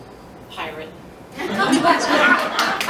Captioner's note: laughter